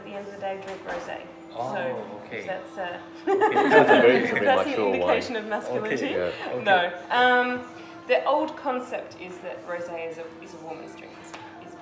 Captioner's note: laugh